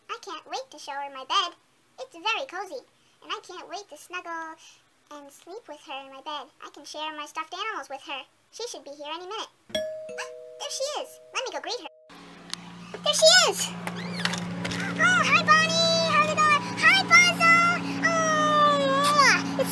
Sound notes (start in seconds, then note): 9.7 doorbell rings; 10.4 gasps